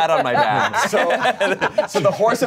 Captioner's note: everyone laughs